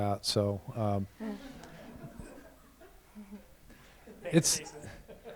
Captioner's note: laughter